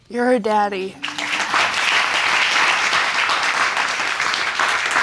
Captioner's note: audience applause